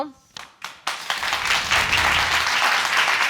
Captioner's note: audience applauding